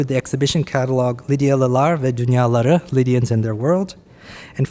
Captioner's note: speaking Turkish